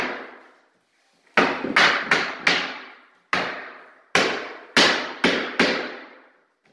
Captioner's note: hammering